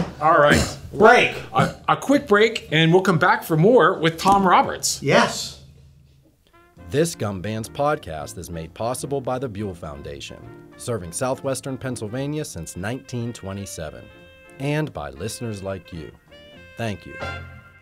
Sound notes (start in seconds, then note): 7.1 voiceover